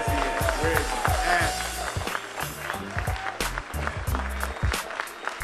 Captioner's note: applause